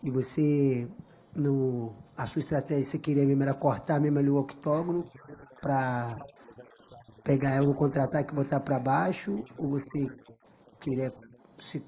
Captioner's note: speaking foreign language